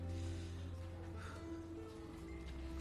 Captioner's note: exhales deeply